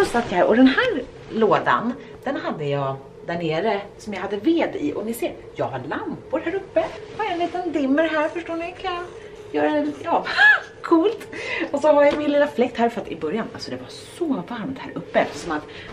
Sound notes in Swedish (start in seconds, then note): 10.2 skratt